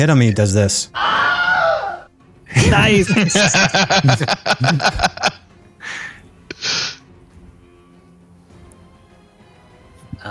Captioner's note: Wilhem scream